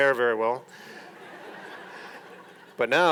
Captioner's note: audience laughing